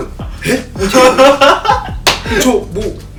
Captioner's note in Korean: 웃음